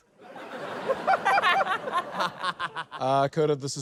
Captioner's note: laughter